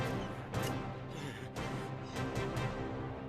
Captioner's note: gasps